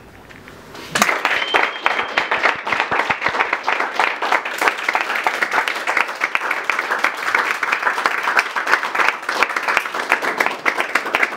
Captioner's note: applause